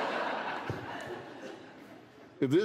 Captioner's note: laughter